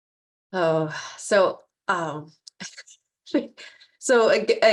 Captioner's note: chuckling